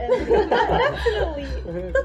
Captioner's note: laughter